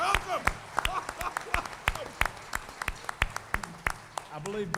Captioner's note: applause